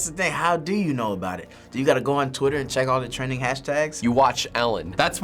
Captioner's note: none